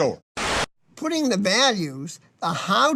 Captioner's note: static